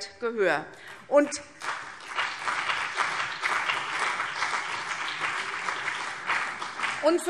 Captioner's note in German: Beifall CDU und BÜNDNIS 90/DIE GRÜNEN